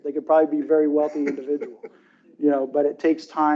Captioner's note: chuckles